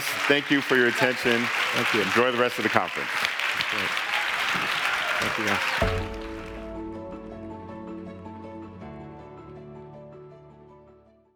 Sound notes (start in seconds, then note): 3.2 clapping; 5.4 easy listening music